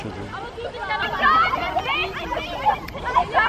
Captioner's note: loud kids